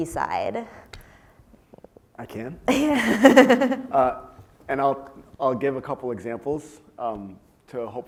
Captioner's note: laugh